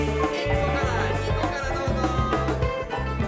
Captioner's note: speaking Japanese